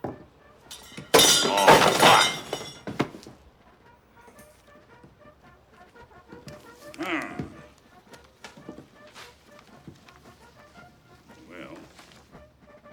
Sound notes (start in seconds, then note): 0.6 clattering